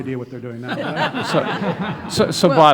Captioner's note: laughing